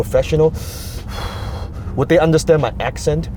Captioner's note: deep breath